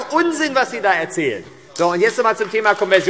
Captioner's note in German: Beifall AfD